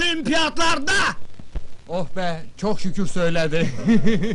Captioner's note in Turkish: gülüşü